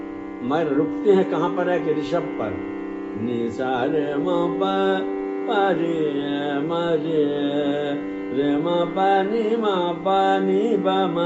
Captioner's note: vibration